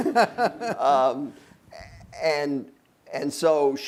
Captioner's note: laughing